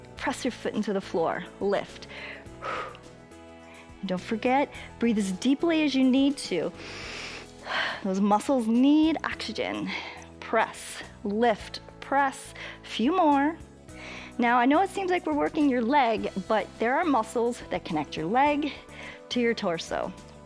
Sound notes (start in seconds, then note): 2.0 exhales; 6.8 inhales and exhales